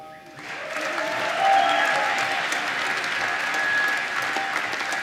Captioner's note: applause